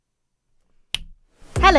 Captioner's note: snaps fingers